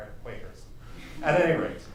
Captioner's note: chuckles